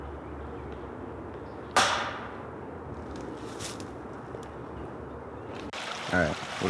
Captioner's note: banging sound